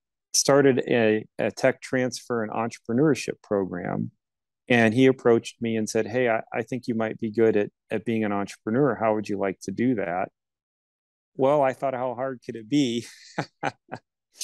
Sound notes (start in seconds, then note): 13.0 laughs